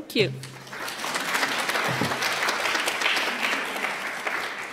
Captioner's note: applause